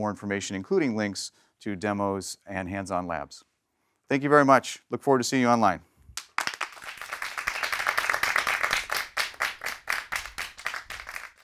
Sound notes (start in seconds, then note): 6.1 applause